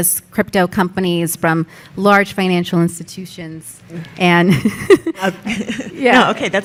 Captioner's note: laughs